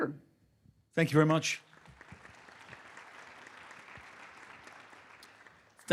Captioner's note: audience clapping